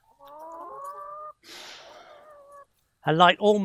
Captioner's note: chickens clucking